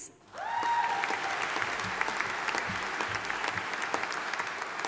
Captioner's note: audience applauding